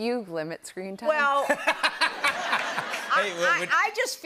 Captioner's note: laughter